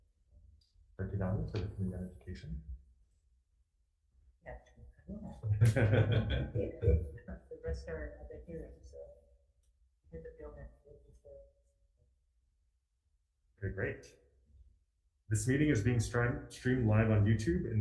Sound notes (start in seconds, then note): 4.5 speaking quietly; 5.4 laughing; 10.9 mumbling